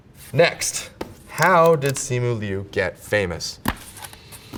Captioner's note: paper rips